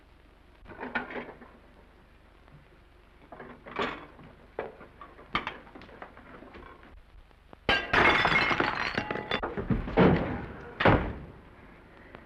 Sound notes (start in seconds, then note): 7.7 plate shatters; 10.8 thump